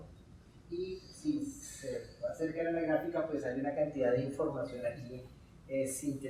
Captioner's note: speaking in Spanish